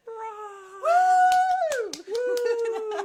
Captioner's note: cheering